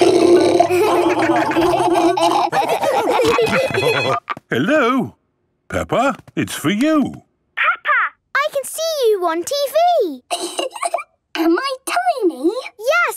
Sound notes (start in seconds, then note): 0.0 laughing; 3.3 phone ringing